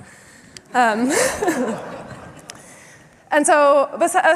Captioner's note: laughter